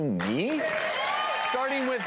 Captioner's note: crowd cheers